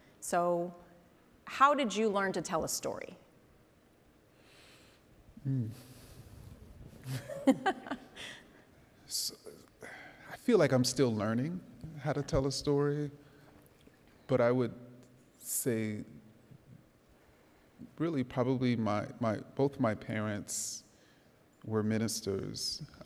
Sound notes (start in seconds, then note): 7.0 laughs